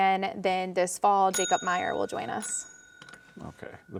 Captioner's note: bell dinging